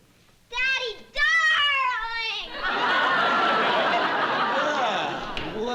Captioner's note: laughter